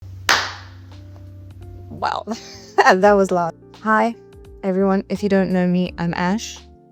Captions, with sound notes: (obscenely loud clap) Wow. That was loud. Hi, everyone. If you don't know me, I'm Ash.